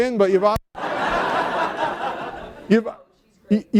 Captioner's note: laughter